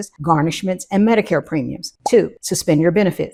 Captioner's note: bubble popping